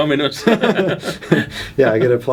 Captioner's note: both laughing